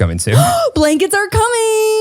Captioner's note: gasps